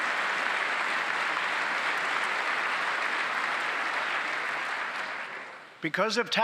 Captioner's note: applause